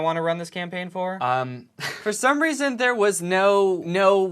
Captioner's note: laughter